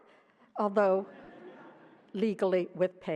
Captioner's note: laughter